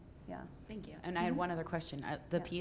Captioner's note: voiceover